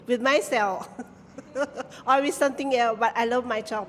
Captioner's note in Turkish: kahkaha